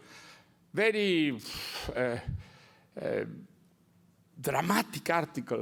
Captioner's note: blows breath